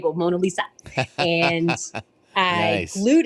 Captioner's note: laughs